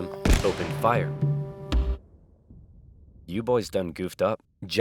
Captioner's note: rifle firing